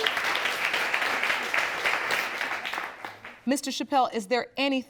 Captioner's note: audience clapping